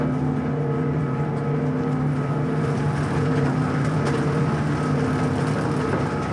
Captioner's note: gentle dramatic music; train car clattering